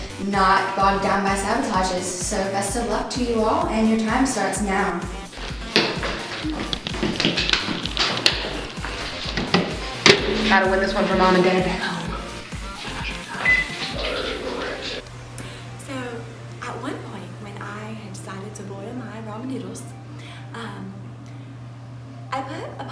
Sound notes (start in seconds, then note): 12.5 whispering